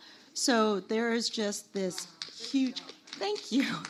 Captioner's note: audience applauding